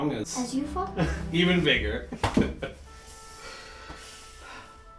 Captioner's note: laughing